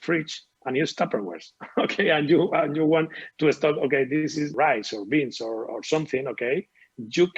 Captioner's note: chuckles